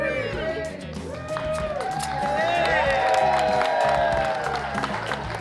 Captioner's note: cheers, applause